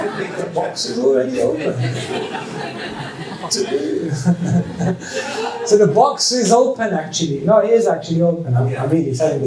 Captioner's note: laughter